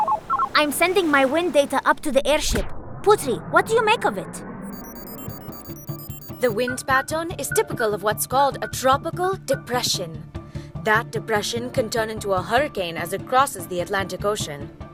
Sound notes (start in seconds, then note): 4.6 computer beeps